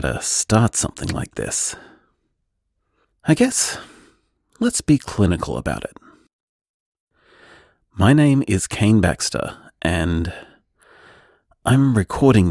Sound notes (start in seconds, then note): none